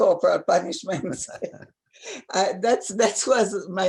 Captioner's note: laughing